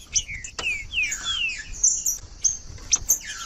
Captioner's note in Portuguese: trinca ferro cantando